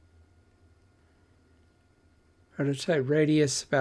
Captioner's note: silence